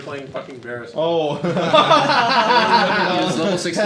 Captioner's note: all laughing